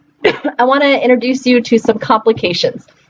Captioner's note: cough